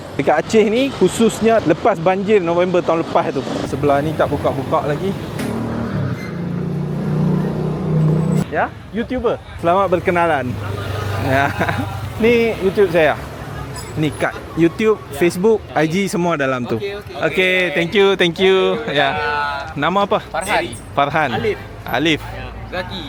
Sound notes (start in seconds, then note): 10.4 laugh